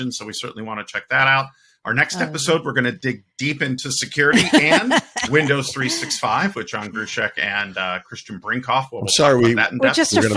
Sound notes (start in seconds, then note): 4.3 laughing; 9.8 laughing